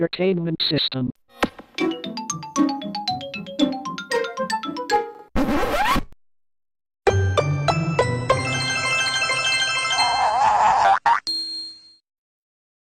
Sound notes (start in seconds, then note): 5.3 record scratches